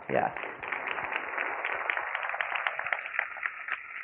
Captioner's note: crowd clapping